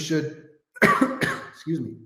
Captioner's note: coughs